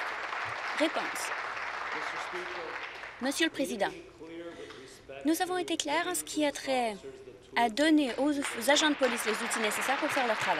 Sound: applause

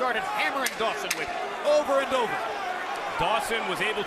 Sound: loud tapping

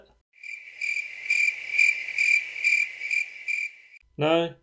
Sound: crickets

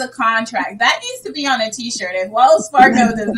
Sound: laughing

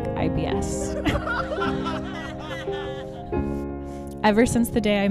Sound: audience laughing

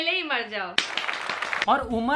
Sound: round of applause

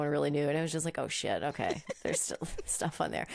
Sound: laughing

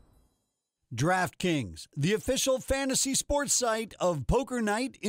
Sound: voiceover

